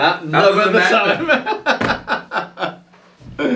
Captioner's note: laughs